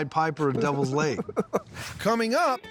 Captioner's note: laughing